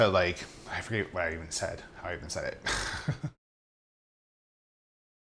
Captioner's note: laughs